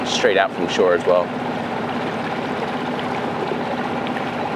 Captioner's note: engine rumbling